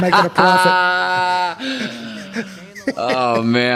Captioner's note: Paul laughing